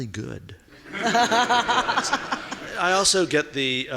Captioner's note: laughing